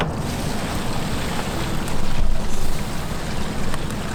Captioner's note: water flushing noise